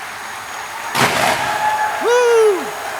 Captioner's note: audience applauding and cheering; fireworks firing